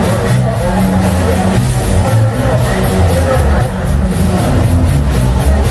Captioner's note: clap